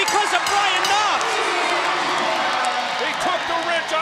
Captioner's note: bell ringing